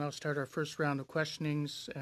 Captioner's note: speaking French